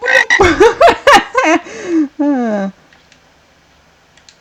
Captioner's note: laughing